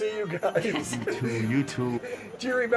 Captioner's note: laughing